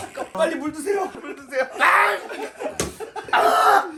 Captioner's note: gargle